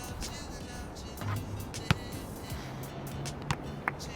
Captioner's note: basketball thunks; Cole claps